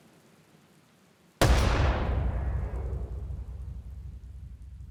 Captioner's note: gunshot